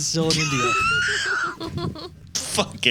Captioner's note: laughing